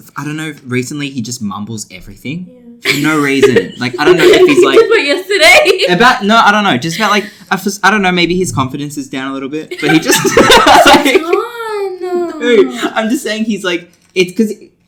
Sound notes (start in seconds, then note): 2.8 laughs; 9.7 laugh